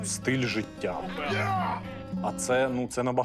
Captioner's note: yelling